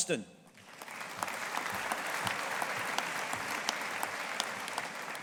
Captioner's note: audience applauding